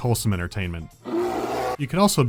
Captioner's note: bear growl